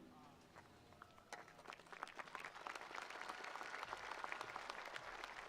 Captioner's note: attendees applauding